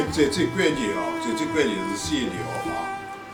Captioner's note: wu Chinese; wu Chinese